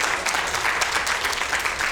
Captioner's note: applause